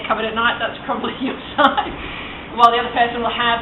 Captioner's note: laughs